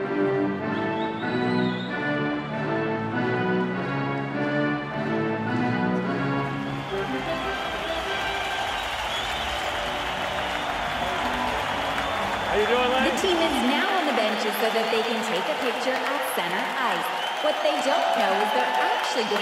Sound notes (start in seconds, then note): 1.9 organ music; 9.1 crowd cheering